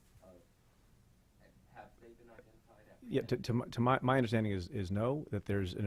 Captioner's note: stutters